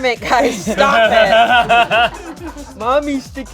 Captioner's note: laughing